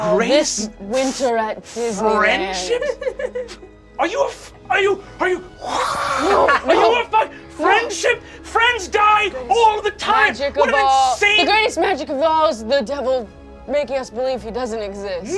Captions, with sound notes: This winter at Disneyland-- - Friendship? (cast laughing) Are you... are you...? - No, no! - Friendship? Friends die all the time! What insane-- - The greatest magic of all is the devil making us believe he doesn't exist.